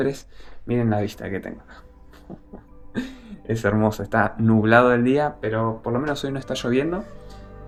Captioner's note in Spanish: risas